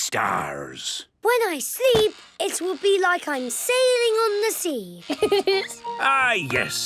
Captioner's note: laughing